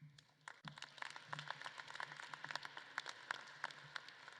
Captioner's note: audience claps